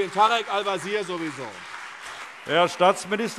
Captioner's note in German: Beifall CDU und BÜNDNIS 90/DIE GRÜNEN